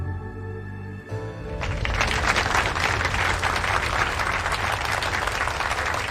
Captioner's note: audience applauding